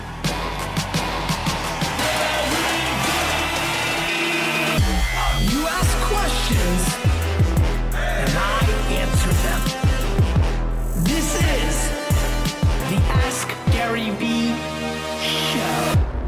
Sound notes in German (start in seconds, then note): 2.6 Voice-over